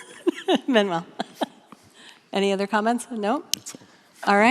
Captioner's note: laughs